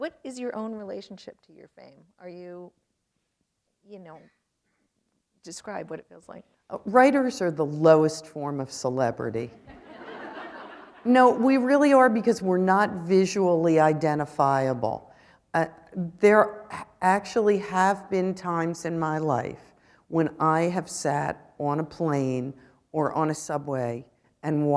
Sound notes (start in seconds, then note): 9.6 laughter